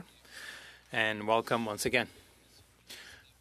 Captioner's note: speaking French